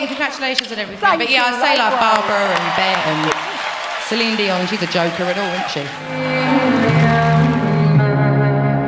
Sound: laughter and applause

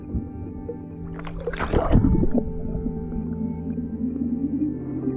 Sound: splashing

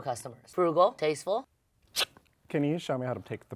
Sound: sneezes

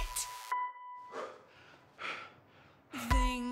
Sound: breathing heavily

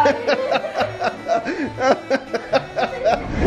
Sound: laughing

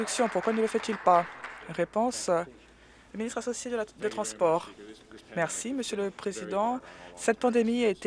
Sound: applause

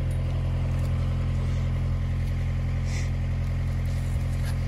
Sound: machinery whirring

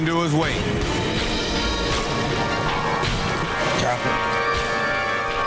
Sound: dramatic music; water gurgling

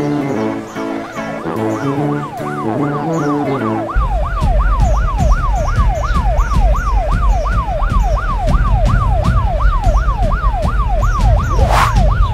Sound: siren blaring

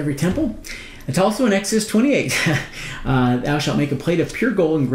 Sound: chuckling

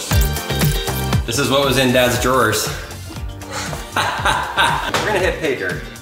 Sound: laughs

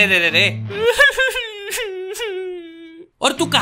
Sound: crying

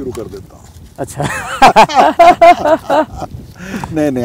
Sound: laughs

